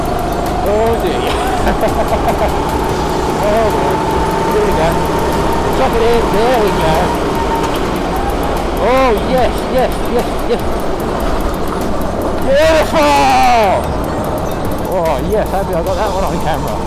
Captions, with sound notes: Oh dear *laughs* Oh boy. Here we go. Chuck it in! There we go! Ohh, yes yes yes yes. BEAUTIFUL!!!! Oh yes, happy I got that one on camera.